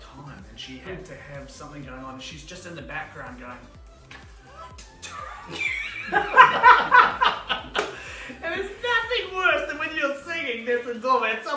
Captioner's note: laughing